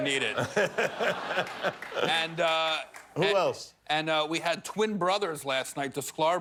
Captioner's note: laughter